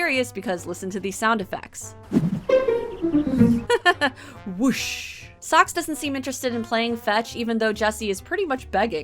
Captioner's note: whoosh